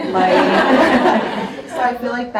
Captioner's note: audience laughs